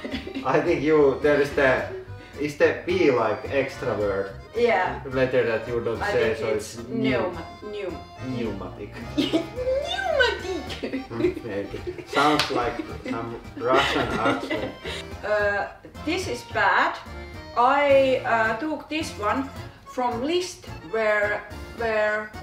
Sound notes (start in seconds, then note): 9.7 mimicking cat voice